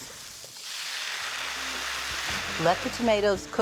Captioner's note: sizzling